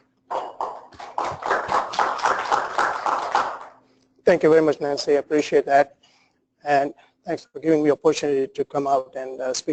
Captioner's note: applause